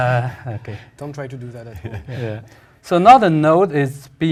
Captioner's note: laugh